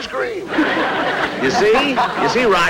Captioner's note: audience Laughing